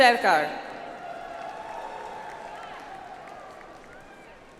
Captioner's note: audience applauds